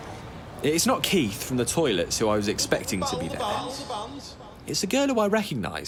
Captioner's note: voice echoes in the background